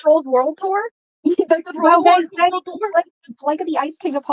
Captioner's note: chatter